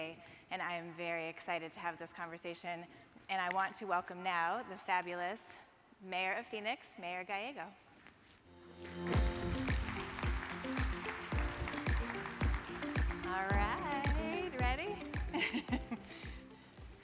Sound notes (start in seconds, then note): 8.5 upbeat music; 9.1 audience claps; 15.2 laughs